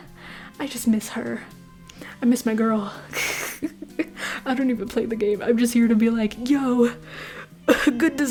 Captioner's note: laughter